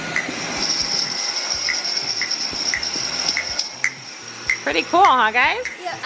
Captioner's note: vacuum cleaner roars